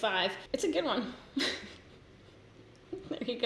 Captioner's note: giggles